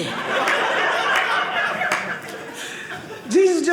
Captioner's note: audience laughing